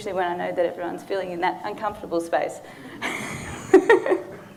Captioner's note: laughing; audience laughing